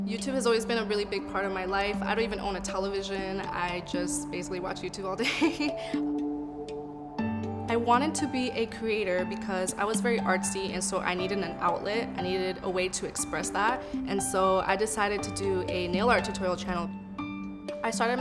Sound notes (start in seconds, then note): 0.0 subdued music; 7.1 laughs